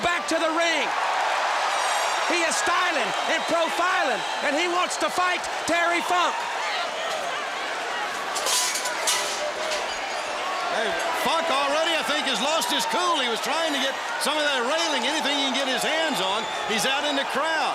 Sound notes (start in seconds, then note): 3.4 crowd cheering; 7.5 crowd chatter